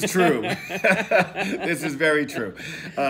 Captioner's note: laughing